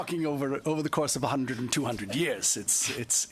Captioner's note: laughter